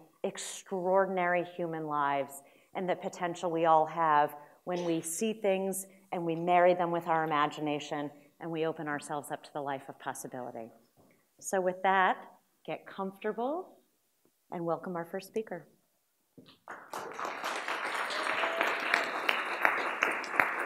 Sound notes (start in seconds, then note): 16.6 applause